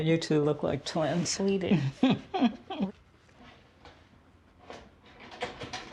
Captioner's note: chuckles